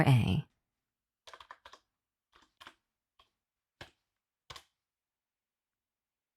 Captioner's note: typing